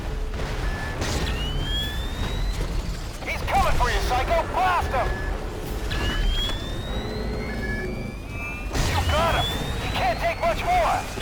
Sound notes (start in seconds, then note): 0.0 exploding; 6.4 exploding